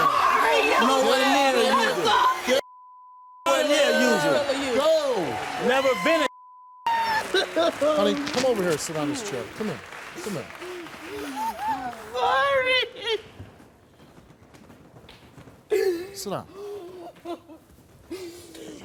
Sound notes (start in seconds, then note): 6.9 wails; 13.3 wailing; 16.5 sobbing